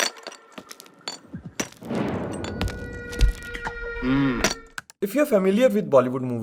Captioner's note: menacing footsteps with ominous music